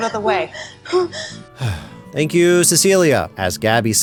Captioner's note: sigh